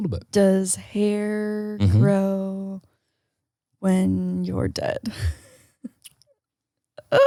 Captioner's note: chuckles